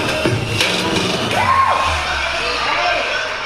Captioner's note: intermittent cheers